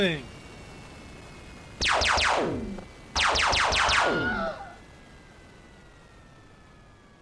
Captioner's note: increasing drone sound; laser sound; shrieking